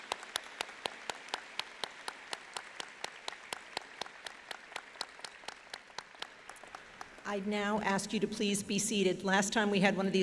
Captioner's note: applause